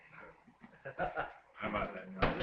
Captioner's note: Carter laughing